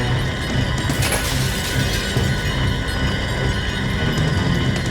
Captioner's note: wheelchair crashes